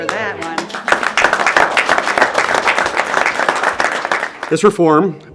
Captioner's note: applause